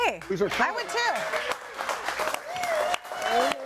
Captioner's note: audience applauding